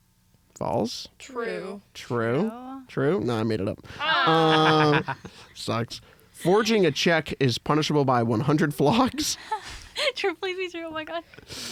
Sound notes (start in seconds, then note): 4.0 laughs; 4.0 laughing